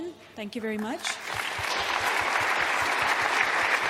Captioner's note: audience applauds